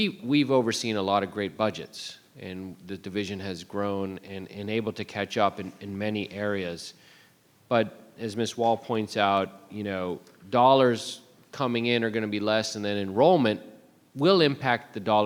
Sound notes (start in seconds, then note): none